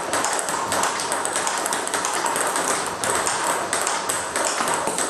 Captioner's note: ball ping pong hitting continues